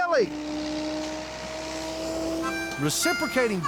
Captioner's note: grinder whirring